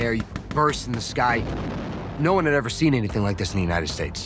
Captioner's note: bomb exploding